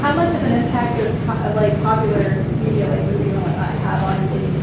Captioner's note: faintly speaking